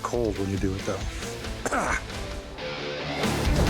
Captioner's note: coughs